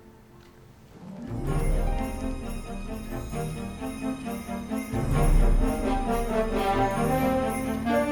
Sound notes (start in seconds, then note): 0.7 upbeat festive music; 1.2 bells jingling